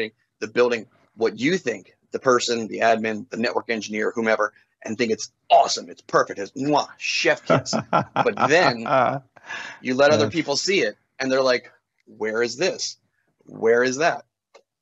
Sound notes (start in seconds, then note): 6.7 kissing sound